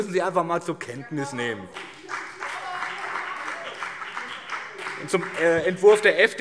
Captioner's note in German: Beifall BÜNDNIS 90/DIE GRÜNEN und CDU